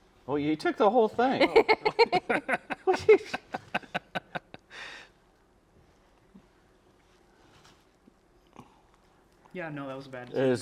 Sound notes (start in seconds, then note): 1.4 laughing